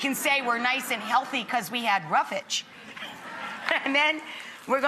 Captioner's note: laughs